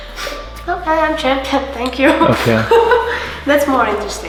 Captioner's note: laughing